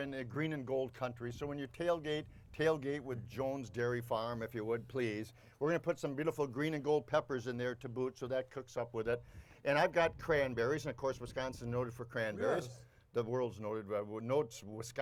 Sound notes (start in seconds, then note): none